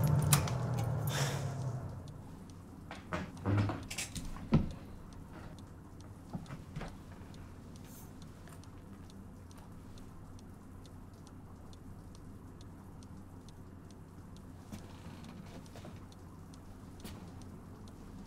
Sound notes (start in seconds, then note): 0.0 oven turns off; 3.4 distant shuffling